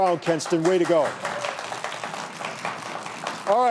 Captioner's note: audience clapping